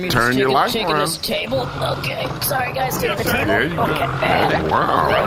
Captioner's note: grunts in exertion